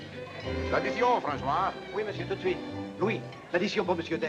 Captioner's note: speaking in foreign language